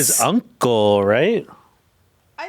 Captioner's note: speaking foreign language